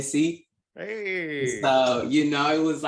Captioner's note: they cheer